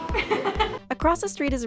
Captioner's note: laughs